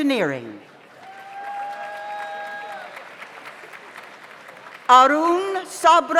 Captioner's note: audience applauds; audience cheers